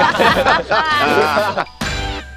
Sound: laughter

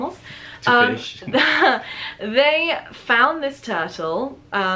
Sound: laughs

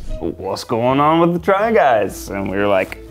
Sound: none

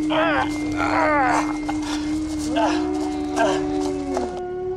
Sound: howling

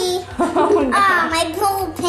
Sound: laughs

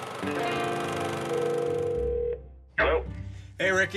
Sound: telephone ringing

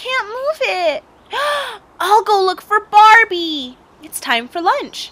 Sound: gasp

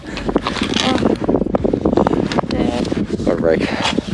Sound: heavy breathing

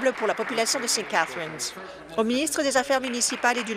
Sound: applause

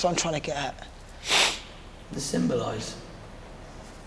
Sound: sniffles

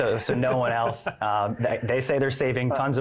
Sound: laughs

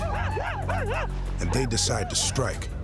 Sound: war sounds

